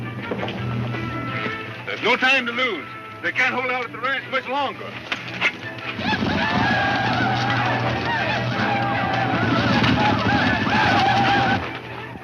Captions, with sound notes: (upbeat music) - There is no time to loss, they can't hold up the ranch much longer. (chanting)